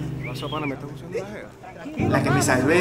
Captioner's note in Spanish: silbido